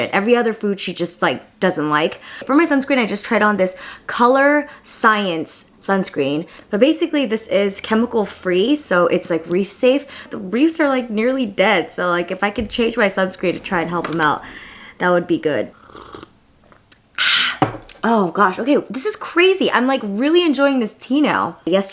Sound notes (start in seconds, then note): 15.7 exhales